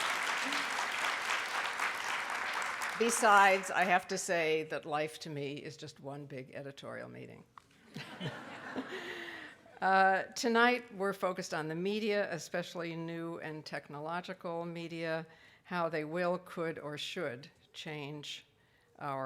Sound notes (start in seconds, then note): 0.0 laughs; 0.0 audience clapping very loudly; 7.9 laughs